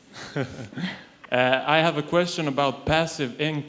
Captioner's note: chuckles